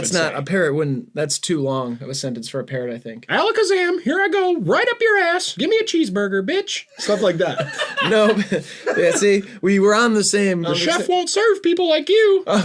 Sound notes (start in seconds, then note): 3.4 parrot voice; 6.9 laughter; 10.6 parrot voice